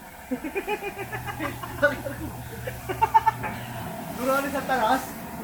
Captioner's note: laughs